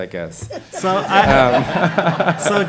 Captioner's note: laughter